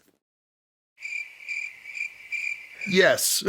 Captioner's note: crickets